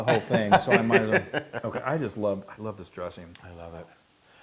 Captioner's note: laugh